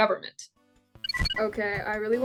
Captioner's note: digital chime